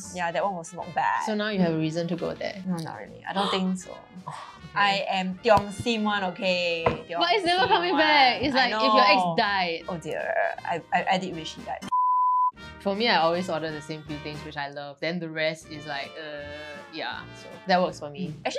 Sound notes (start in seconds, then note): 4.2 gasps